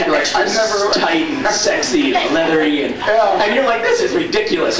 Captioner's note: laughs